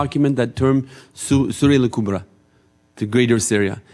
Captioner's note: speaking in foreign language